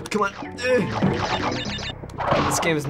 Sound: grunts

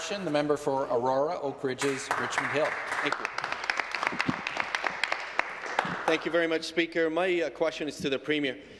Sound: some Applause

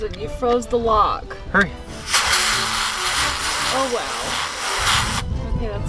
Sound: air blowing

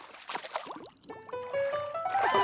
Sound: giggling

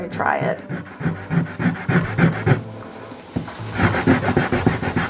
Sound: eraser rubbing

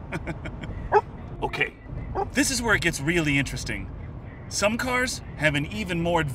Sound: laffs; scout barks

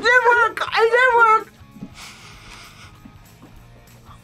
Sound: gags; sniffs

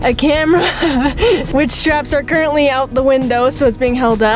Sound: laughs

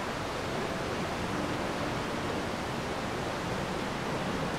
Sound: water rushing

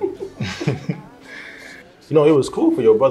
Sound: both laugh

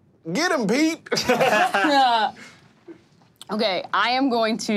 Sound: laughing

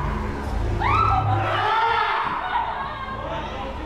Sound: roars and screams

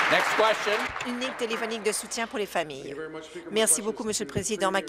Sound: applause

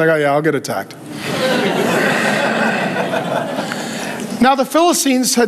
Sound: congregation laughing

